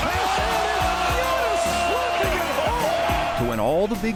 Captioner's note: audience cheering